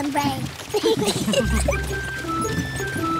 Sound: all giggle

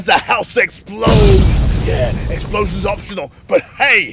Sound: bang

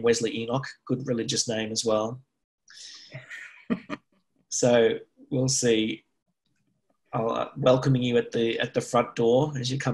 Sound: laughs

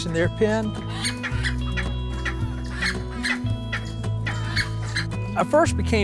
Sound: clucking

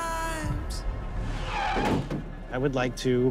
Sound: tires screech

